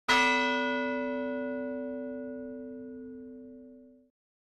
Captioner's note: single bell ringing